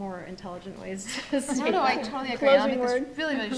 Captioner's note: laughs